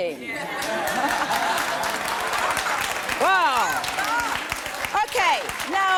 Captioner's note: laughter and applause